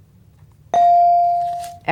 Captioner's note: bell dings